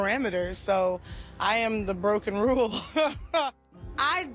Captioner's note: laughs